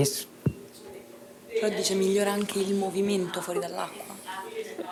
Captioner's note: speaking italian